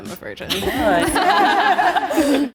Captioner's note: all laughing